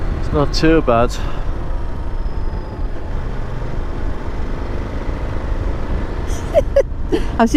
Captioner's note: laughter